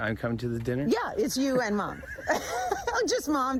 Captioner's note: both laugh